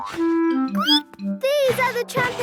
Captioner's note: squeaks